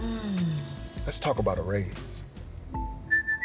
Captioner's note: sniffing